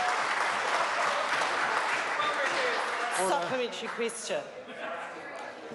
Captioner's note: members applaud